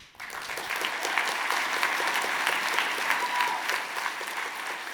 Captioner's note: audience applauding